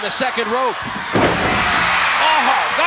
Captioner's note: audience cheering